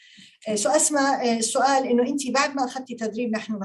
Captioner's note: speaking Arabic